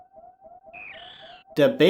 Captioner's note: Baby Metroid noise